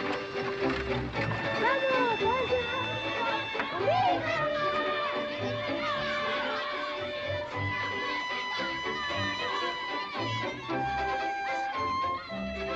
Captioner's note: horse and buggy approaching; children yelling excitedly